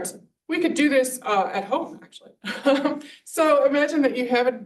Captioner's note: chuckles